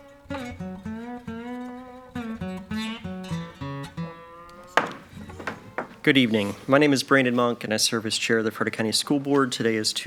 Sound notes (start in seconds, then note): 4.5 gavel taps